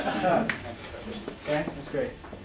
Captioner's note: students laugh